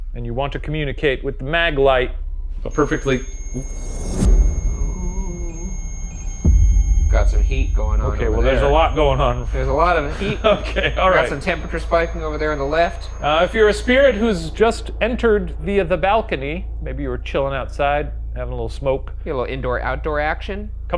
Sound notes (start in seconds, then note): 4.2 REM-Pod beeping